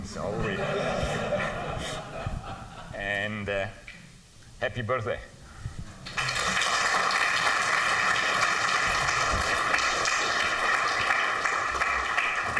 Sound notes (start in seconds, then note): 0.3 laughter; 6.0 applause